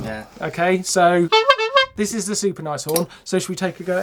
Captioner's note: horn honks